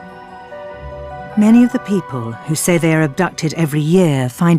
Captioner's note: voiceover